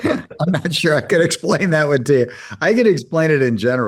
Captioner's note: laugh